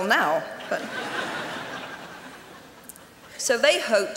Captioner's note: laughter